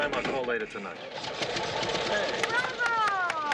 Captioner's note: engine starting